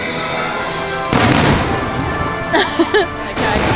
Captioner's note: fireworks crashing